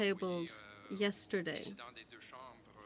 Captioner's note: speaking french